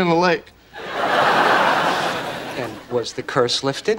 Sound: audience laughing

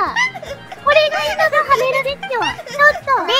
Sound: laughing

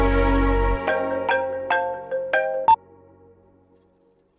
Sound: mobile phone ringing

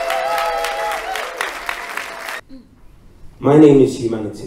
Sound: applause

